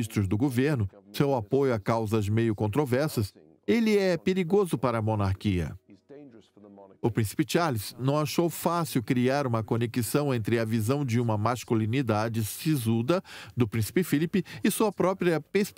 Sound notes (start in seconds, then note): 7.4 voiceover